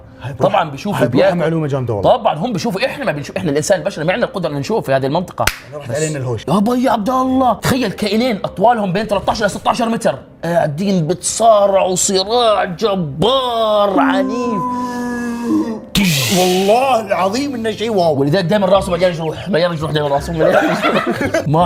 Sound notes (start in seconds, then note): 13.9 whale noises; 16.0 boom